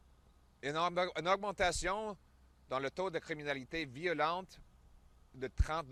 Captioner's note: French